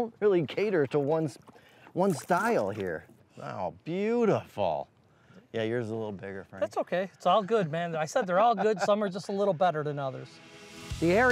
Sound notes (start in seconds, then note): 8.0 laughs